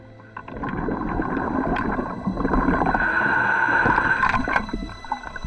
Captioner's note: water rumbling